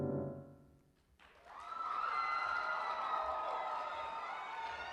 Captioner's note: music stops; cheering and applause